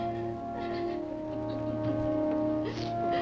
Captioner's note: Eve sobs